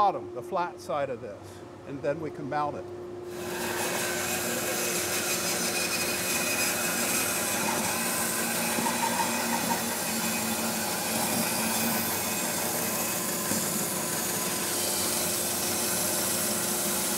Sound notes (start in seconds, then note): 3.3 bandsaw buzzing